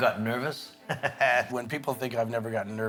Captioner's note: man in white shirt laughing